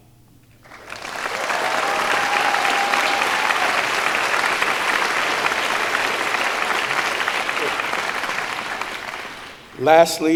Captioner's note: applause